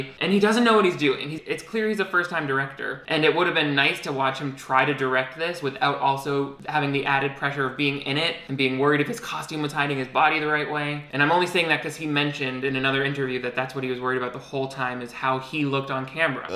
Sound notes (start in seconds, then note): none